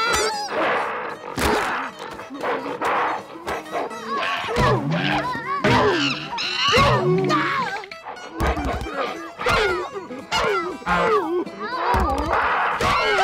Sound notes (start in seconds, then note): 0.2 grunting; 3.8 groaning; 5.8 grunting; 11.4 grunting